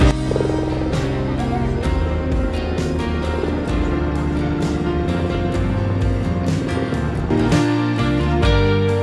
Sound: music & Helicopter thunder sound

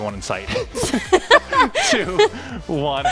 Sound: both laughs

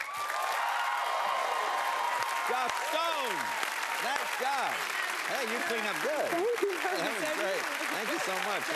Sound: cheers and applause

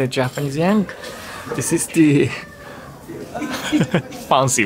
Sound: chuckles

